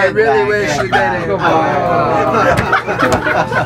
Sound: laughing

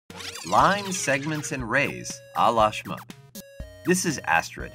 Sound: Space invaders in the background

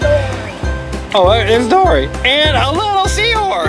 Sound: voiceover

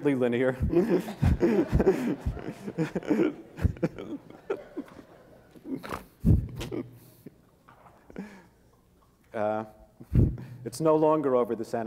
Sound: laughter

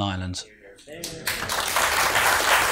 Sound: applause

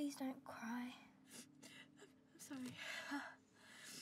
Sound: Jocelyn cries

